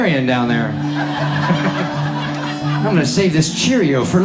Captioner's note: laughing